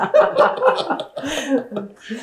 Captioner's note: laughter